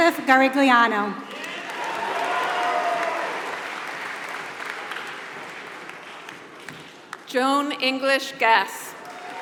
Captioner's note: applause; applause